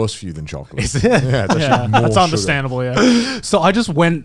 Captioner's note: laughs